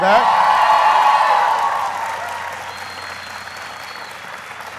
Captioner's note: applauding and cheering